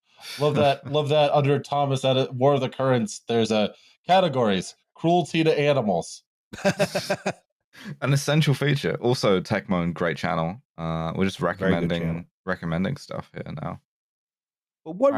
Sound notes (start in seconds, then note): 6.5 laughter